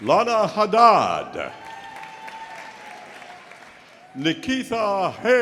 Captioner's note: audience cheering; audience applauding